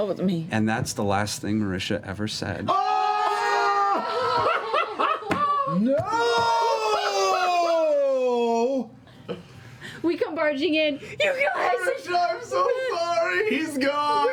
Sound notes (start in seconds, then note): 2.4 shouting; 9.9 crying